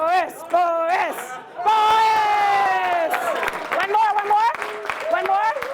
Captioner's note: applause